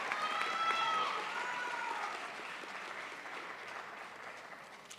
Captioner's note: crowd applauds